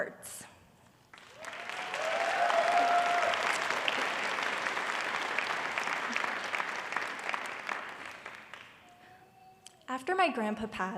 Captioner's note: applause